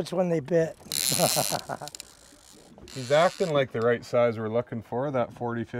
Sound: chuckling

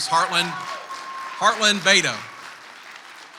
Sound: audience applauds

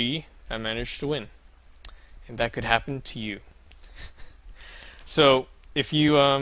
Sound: awkward Giggle

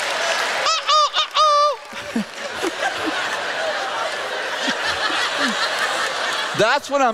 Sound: laughter

